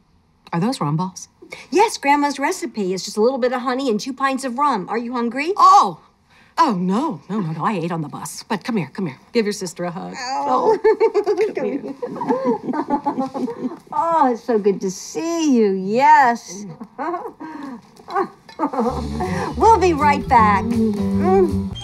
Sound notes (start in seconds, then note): 10.3 laughs; 18.0 chuckles